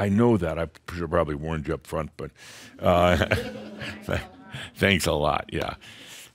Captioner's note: more chuckles and someone says “Thanks a lot”